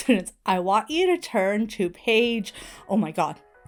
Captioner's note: ringtone plays